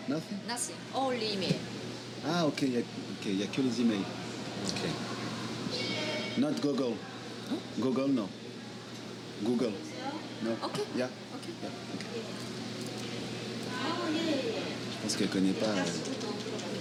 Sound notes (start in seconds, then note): 2.3 speaking foreign language